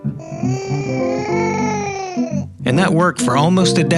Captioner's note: baby gurgling